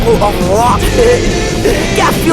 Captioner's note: laugh